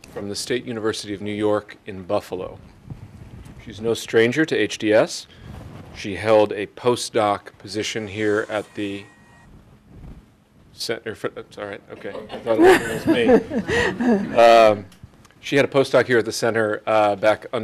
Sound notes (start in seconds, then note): 8.1 phone buzzes; 12.0 audience laughing; 12.0 audience chuckling